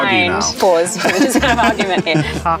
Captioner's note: Luke laughs